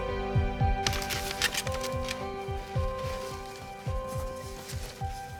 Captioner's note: paper whooshing